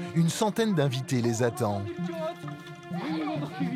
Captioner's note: foreign spoken audio